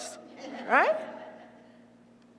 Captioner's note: laugh